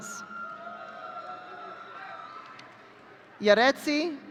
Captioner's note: audience cheering